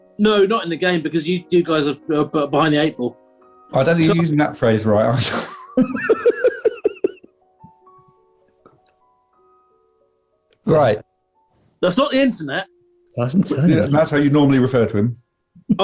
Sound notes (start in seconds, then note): 5.2 laughter